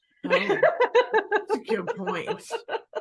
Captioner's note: laughing